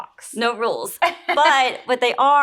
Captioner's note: laughs